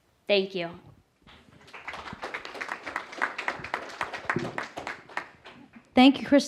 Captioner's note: applause